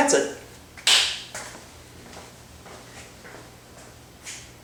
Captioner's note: short clap